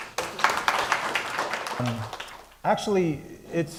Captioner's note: applause